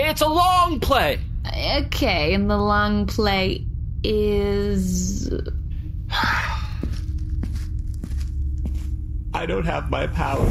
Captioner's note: sighs and falls to ground, crying